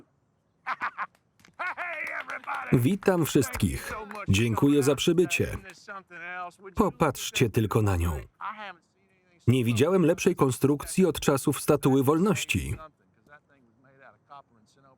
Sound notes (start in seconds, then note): 1.6 laughing